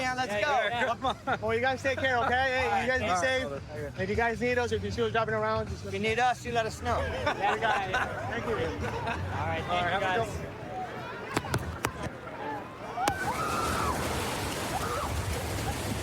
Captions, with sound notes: Let's go. - Come on. - Well, you guys take care, OK? - All right. Hey, you guys be safe. If you guys need us or if you see us dropping around, just let us know. If you need us, you let us know. We got you. Thank you. - All right. Thank you, guys. [excited screaming]